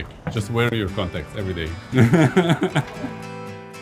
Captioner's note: laughs